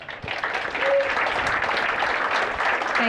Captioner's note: applause